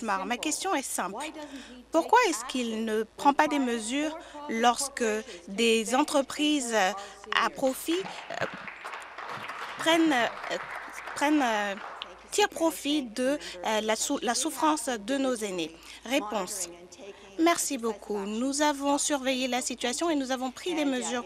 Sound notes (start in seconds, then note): 12.3 applause